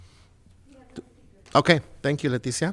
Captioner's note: speaks faintly